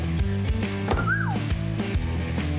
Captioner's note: whistle